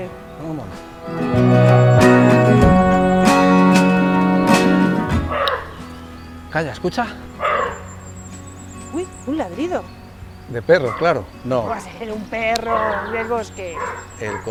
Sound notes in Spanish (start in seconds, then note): 7.4 Ladrido